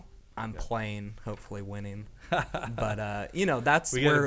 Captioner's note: laughing